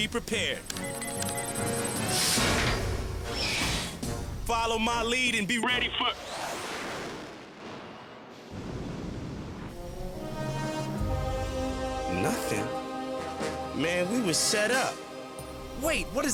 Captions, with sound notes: CAN'T HURT TO BE PREPARED. (BUTTONS BEEP) (GEARS CLUNK AND WHIR) FOLLOW MY LEAD AND BE READY FOR... NOTHING? MAN, WE WERE SET UP.